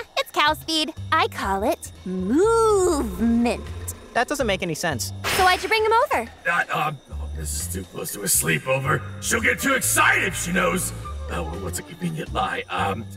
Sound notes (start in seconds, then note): 4.9 suspicious guitar music; 7.2 crickets chirping